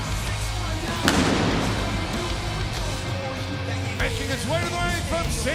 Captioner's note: intense music; singer vocalizing; pyrotechnics bang